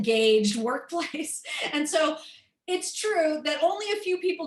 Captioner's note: laughter